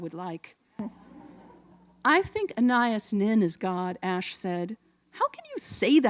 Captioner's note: laughter